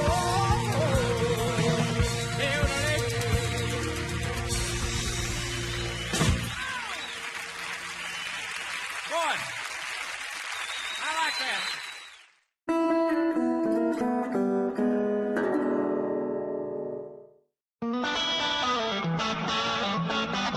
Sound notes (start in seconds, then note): 4.0 audience applauding; 12.7 soft music